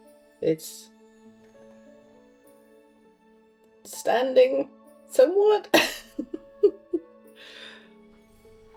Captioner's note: laughs